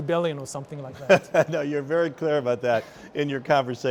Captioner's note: laughs